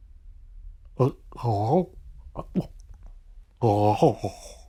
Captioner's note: gurgling